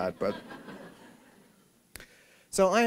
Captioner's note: laughter